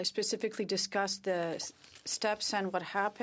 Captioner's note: speaking French